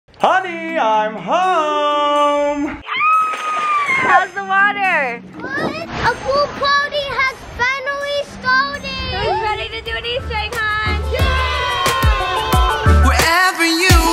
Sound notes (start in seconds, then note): 2.8 screaming; 3.9 water splashing; 11.0 cheering